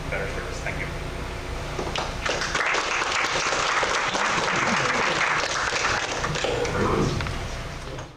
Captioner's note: clapping